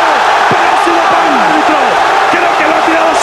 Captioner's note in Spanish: Gritos